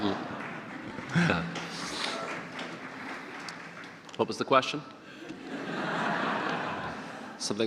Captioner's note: audience laughter